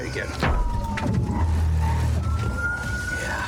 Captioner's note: thuds